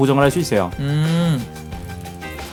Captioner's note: hmmmmm